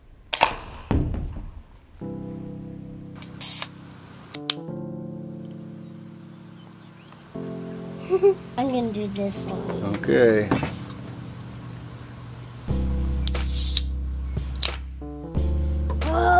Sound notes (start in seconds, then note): 0.5 can fizzing; 8.0 laughs; 13.4 can fizzing